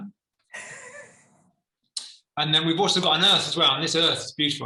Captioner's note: laughter